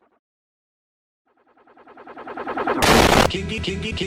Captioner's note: distorted barks fade back in; explosion